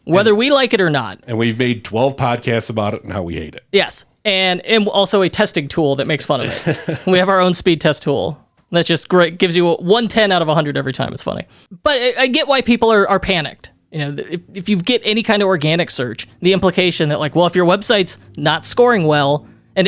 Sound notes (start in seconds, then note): 6.4 laughs